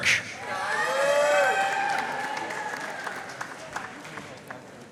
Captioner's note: audience cheering and applauding